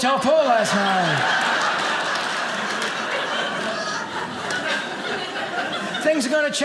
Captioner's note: audience laughing